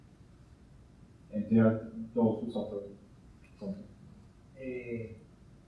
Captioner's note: distorted speaking